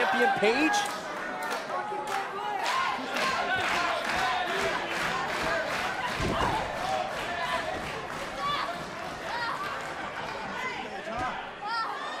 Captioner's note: crowd cheering